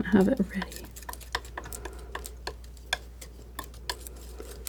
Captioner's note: scratching